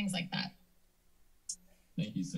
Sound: silence

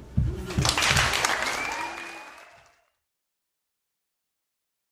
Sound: audience applauding

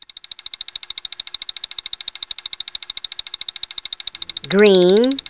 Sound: clicking

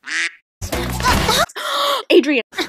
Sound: quack; gasp

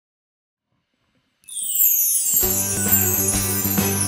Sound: chimes ringing

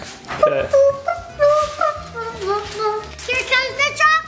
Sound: humming

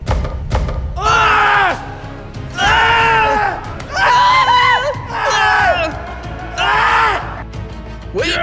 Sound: scream

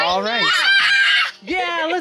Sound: screaming joyfully

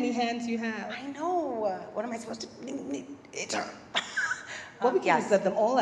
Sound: laugh

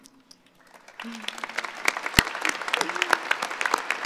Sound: applauding

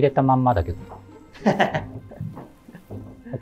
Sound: laughing

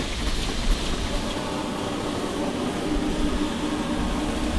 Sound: steam hissing

